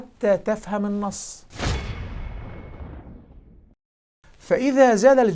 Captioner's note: sound effect